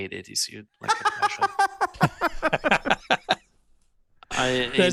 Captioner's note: laughing